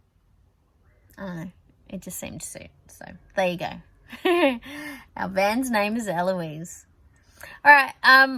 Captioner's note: chuckles